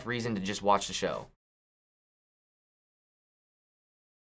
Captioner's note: silence